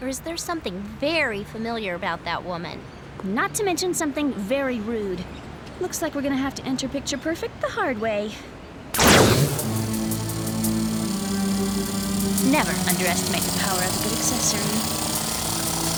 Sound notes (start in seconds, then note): 9.0 drilling